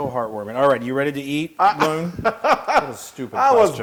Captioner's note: laugh